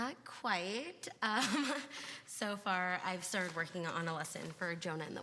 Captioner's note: laughs